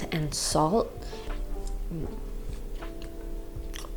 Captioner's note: eating